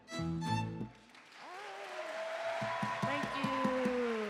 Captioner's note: cheering